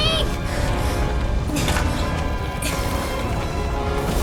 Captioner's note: grunts